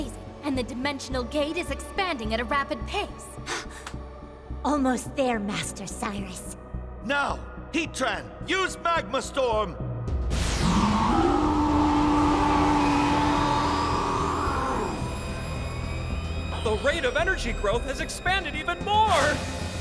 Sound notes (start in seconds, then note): 3.2 gasps; 10.6 Heatran roaring